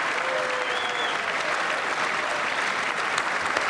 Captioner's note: applause